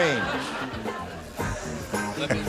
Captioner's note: laughing